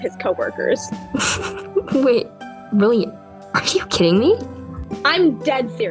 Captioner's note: lucy laughs